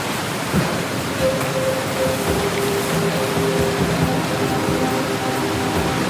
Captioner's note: waterfall roaring over soft music